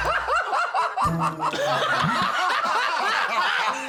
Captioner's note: laughter